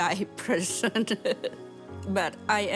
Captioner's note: laughs